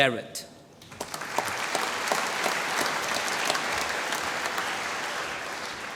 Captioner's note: applause